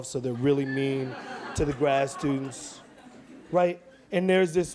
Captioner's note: audience laughs